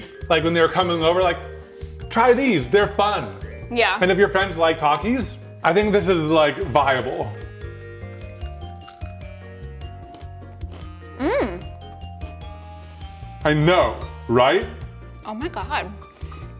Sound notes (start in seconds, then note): 7.7 upbeat music; 7.9 Takis crunching; 12.6 inhales